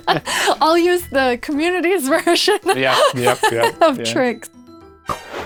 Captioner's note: laugh